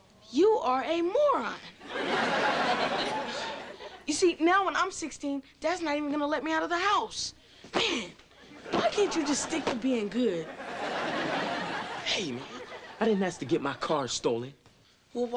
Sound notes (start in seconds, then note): 1.8 audience laughing